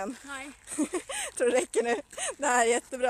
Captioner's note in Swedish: skrattar